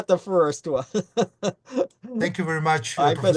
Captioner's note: chuckles